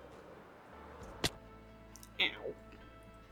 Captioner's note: smack